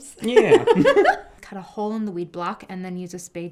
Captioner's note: laughing